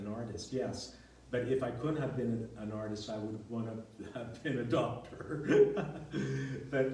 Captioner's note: laughs